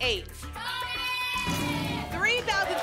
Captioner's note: cheering